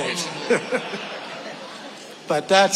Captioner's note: audience laughing